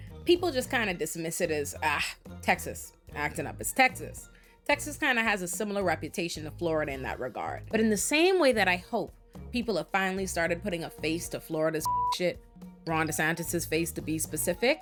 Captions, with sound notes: people just kinda dismiss it as, ah, Texas, acting up as Texas. Texas kinda has a similar reputation to Florida in that regard. But in the same way that I hope people have finally started putting a face to Florida's (beep) shit, Ron DeSantis's face to be specific,